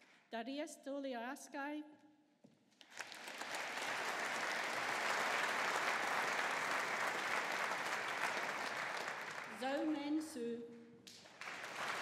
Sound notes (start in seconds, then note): 2.8 audience applauding; 11.1 audience applauding